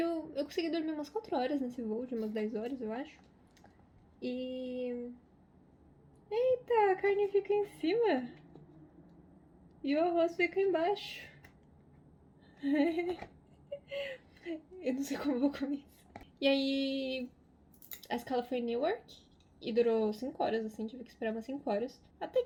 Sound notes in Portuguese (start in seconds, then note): 12.6 risos